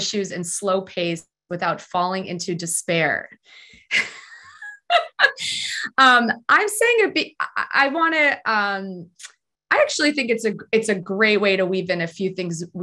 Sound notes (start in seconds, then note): 4.0 laughs